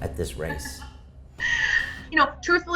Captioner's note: laughter